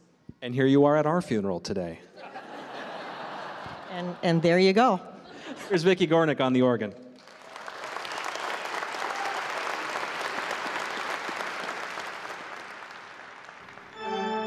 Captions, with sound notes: And here you are at our funeral today. [laughter] And there you go. Here's Vicki Gornick on the organ. [applause] [organ music]